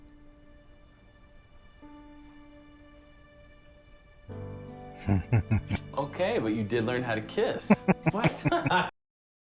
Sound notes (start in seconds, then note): 5.0 chuckling; 7.6 laughing